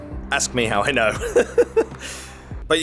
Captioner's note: laughs